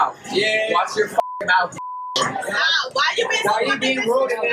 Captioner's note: beep